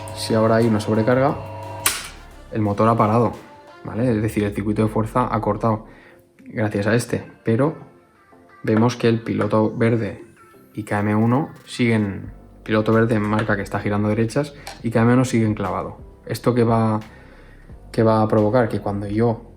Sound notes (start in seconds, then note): 6.3 motor breaker - Q2